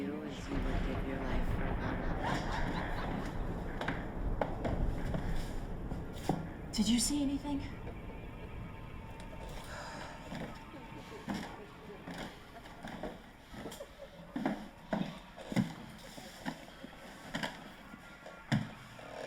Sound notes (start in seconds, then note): 8.7 tense music continues; 10.4 voice laughing